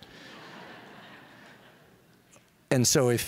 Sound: audience laughing

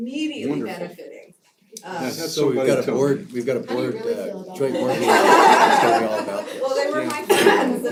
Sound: laugh

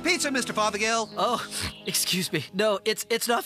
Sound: sniff

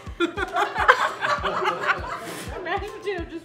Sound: laughing

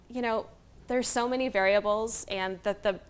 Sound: none

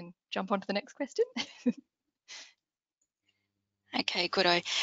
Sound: chuckles

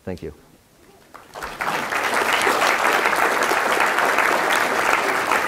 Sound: applause

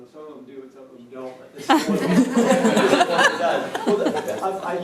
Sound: laughter

